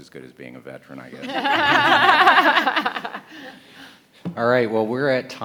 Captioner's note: panelists laughing